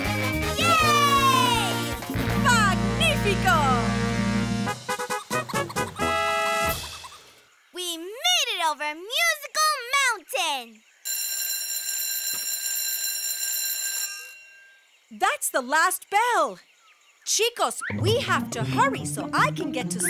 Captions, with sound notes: Yay! Magnífico! [trumpet playing] We made it over Musical Mountain! [school bell ringing] That's the last bell! Chicos, we have to hurry so I can get to school